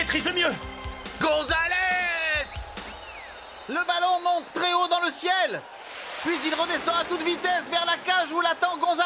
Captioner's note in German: beifall